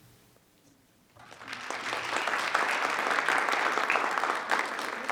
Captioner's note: group applauds